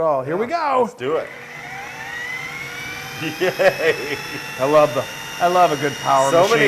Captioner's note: laugh